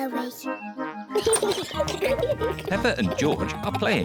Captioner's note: kids giggling